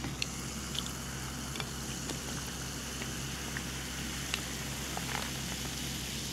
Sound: very refreshing carbonation sound

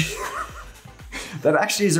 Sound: all laughing

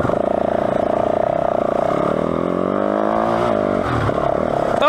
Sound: engine revving

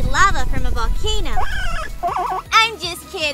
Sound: Parsley squeaks; giggles

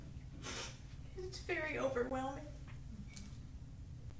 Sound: sniffs

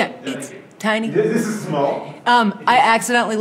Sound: laughs

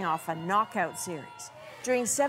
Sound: cheers and Applause

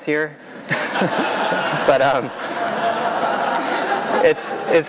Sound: laughter

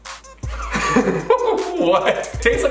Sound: both laughing

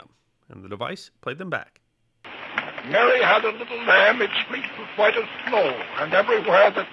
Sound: Edison recording

